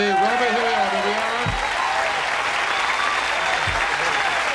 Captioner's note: audience cheers